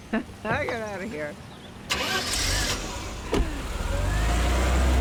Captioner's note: laughs; engine turns over, door closes